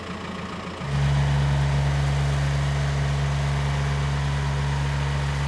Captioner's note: engine revving up